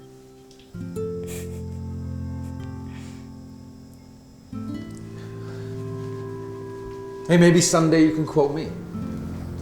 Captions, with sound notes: (light music) (quiet chuckling) Hey, maybe some day you can quote me.